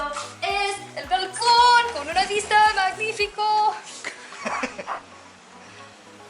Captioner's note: laughter